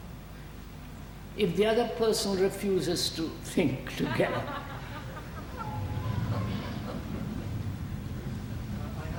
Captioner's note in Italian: risate